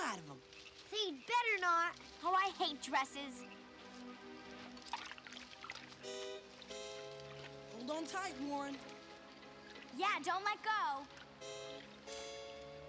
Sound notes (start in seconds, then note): 5.4 water splashing